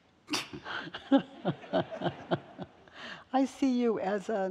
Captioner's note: all laughing